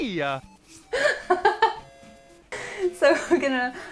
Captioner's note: laughs